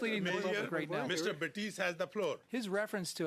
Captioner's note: mixed voices